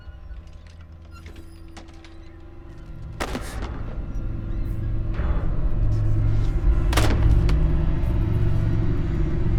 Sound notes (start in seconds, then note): 2.9 books thudding